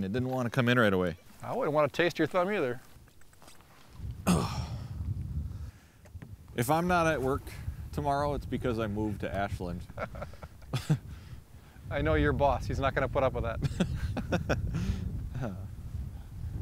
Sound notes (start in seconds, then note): 9.9 laughing; 13.7 laughing